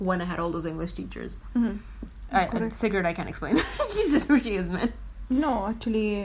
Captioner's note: laughs